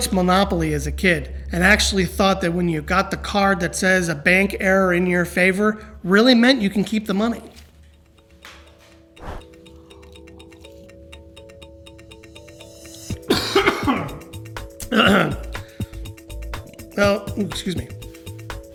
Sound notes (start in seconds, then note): 7.3 paper rustles; 8.8 sips water; 9.2 upbeat music; 13.2 coughs